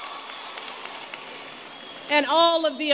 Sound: applause

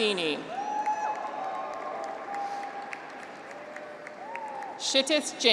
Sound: graduates cheer; audience applauds

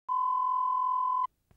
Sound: beep

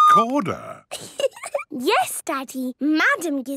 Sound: giggling

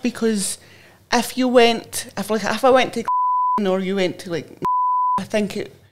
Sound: beep

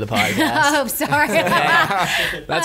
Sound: laughs

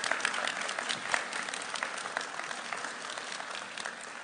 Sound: applauding

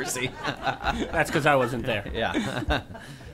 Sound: laughter

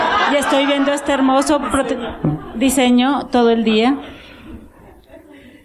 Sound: laughter

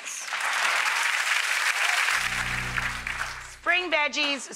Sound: audience clapping

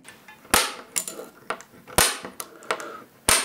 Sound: loud clacking

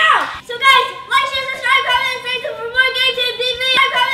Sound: shouting

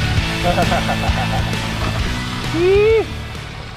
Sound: laughs

